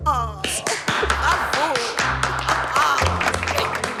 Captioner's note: applause